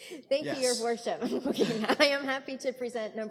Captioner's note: chuckling